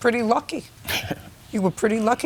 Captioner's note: scoffs